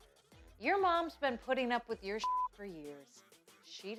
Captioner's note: beep